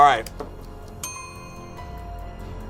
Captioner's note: bell rings; tense music